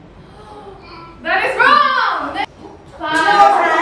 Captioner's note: grunts